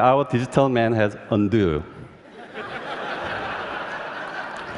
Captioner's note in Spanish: Risas